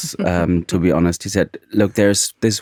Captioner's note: chuckling